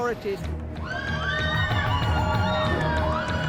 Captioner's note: girls screaming